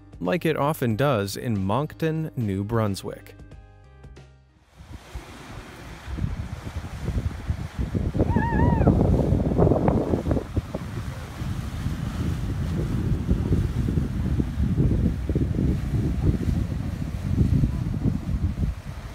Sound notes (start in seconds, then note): 4.5 engine revving; 9.8 waves crashing